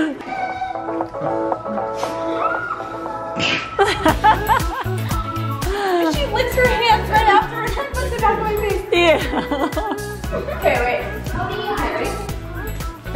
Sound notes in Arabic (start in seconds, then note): 0.2 موسيقى مبهجة; 3.7 ضحكات خافتة من الكريستال